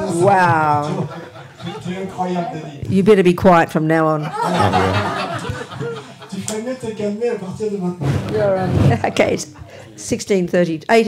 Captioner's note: laughter